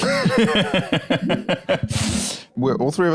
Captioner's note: laughs